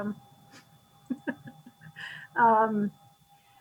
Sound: laughs

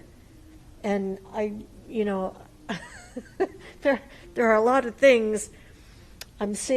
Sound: laughs

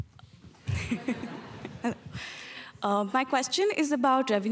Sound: audience laughing

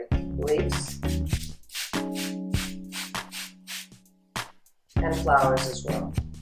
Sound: water being sprayed

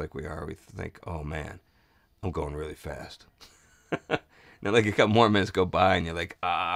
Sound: chuckles

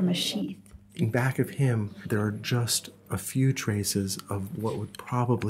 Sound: voiceover

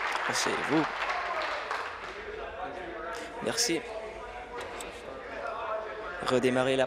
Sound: applause

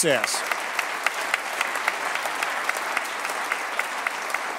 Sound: applause

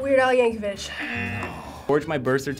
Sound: buzzer

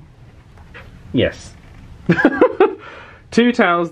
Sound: laughs

